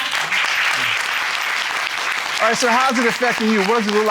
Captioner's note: courtroom applauding